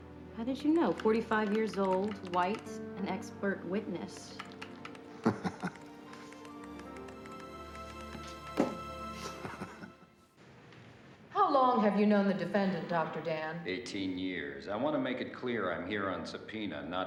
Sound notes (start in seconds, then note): 5.0 laughing; 9.1 chuckling